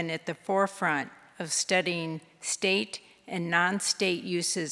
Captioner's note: none